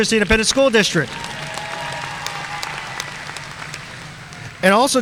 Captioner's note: audience cheering and applauding